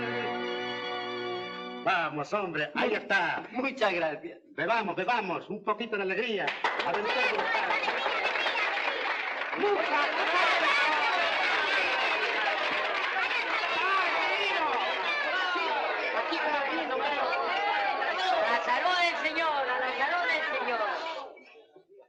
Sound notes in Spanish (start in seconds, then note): 6.4 Aplausos; 7.0 Exclamaciones de alegría